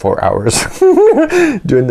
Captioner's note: big giggle